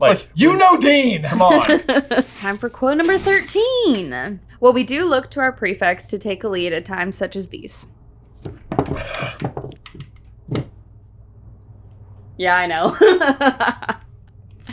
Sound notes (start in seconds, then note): 9.0 groans; 12.9 laughing